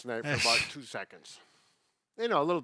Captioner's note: chuckles